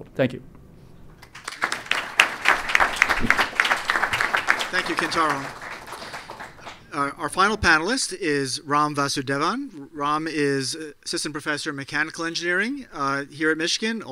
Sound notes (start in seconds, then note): 1.2 applause